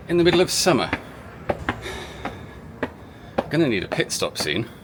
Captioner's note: disturbingly heavy breathing